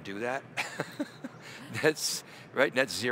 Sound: chuckling

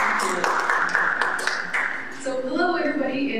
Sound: applause

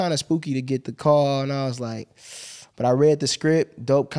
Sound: wincing

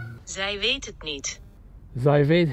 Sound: phone speaking in foreign language; speaking in foreign language

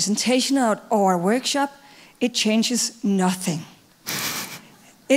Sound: laughing

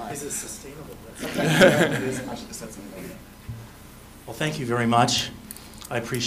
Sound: laughter

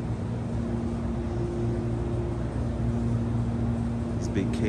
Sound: fan Noise

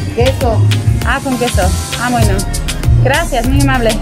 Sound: in Spanish

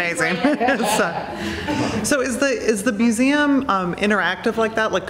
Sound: laughing; laughs

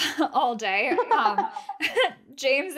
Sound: laughing

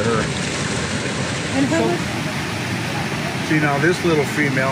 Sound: water continues splashing

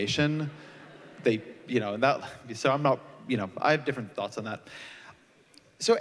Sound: laughter

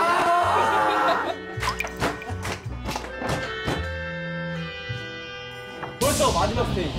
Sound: ostrich is crying out of rage

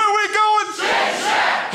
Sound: crowd

